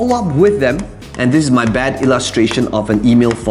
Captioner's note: marker tapping